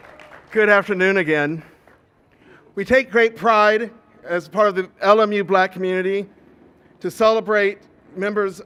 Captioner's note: applause